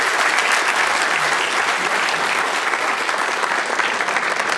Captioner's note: applause